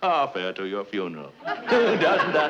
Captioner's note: audience chuckling